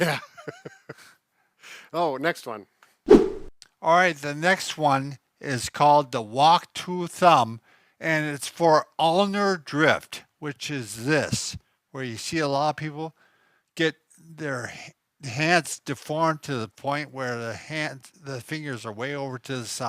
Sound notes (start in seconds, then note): 1.0 laugh; 3.0 whip sound